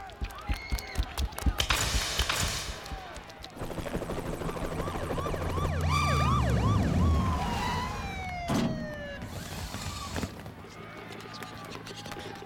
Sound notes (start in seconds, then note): 4.4 siren wailing, tires screeching